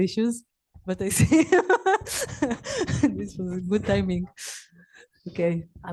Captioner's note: laughs